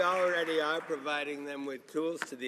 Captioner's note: some Applause